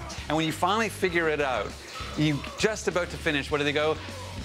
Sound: grunting

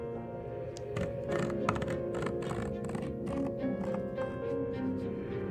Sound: wood scratches

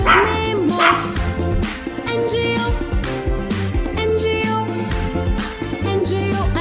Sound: clap – Clap

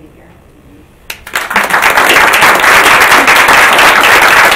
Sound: audience claps

